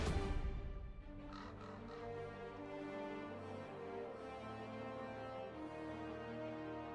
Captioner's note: thrilling music; birds cawing